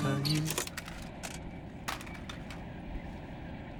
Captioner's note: tape clattering